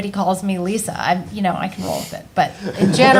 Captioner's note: group laughing